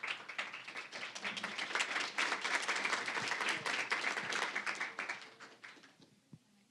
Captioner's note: applause